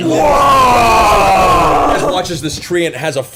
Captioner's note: all yell